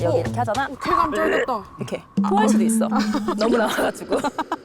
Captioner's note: gagging sound